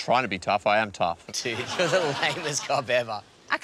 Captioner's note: laughs